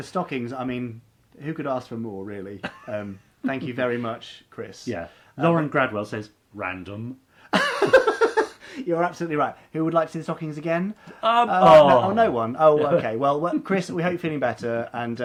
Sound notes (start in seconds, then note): 7.5 laughing; 11.2 groaning